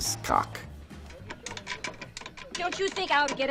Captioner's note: tool clicking